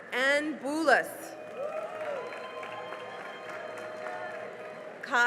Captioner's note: cheering and applause